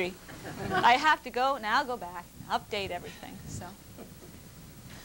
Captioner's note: laughter